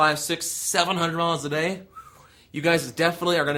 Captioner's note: whistle